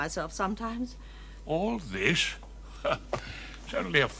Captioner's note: laughing